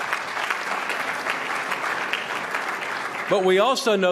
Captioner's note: applause